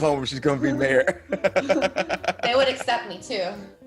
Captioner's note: laugh